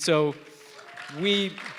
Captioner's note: applause